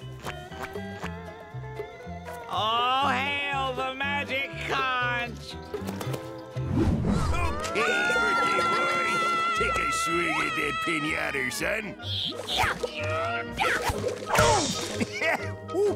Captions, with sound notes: All hail the magic conch! Okay, birthday boy, take a swing at that pinyater, son. [grunting] [chuckles] Ooh.